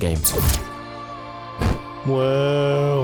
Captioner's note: poof